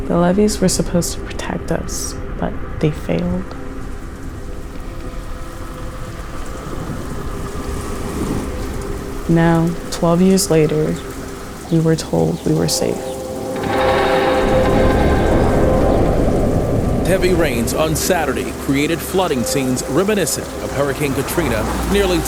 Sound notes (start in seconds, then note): 5.9 rain fall; 13.9 eerie sounds